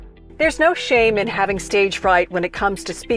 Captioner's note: voiceover